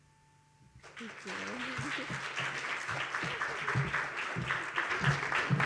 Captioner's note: audience applauds